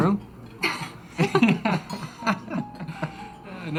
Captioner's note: laughs